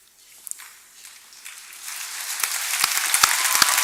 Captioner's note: applause